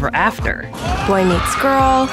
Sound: joyful cheering

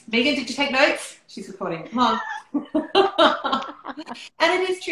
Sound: laughter

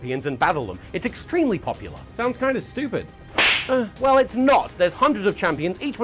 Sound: slap

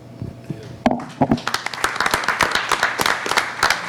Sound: clapping

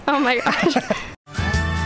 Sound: laughter

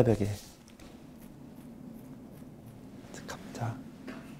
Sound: Scratch

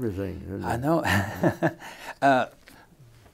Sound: laughter

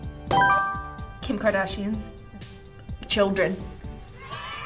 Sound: buzzer chimes; crowd cheer

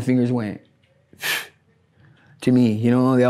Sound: exhales sharply

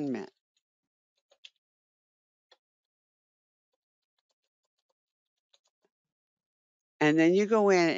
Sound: 5 seconds pause

